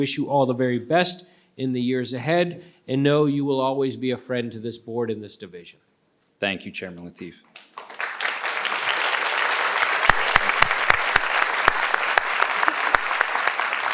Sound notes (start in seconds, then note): 7.6 participants clap